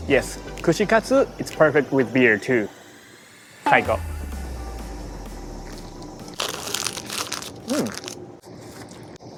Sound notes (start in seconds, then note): 6.3 bag crinkles